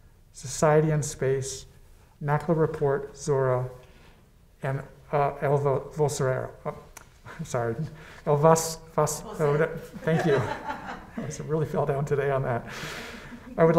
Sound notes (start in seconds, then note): 9.2 woman laughs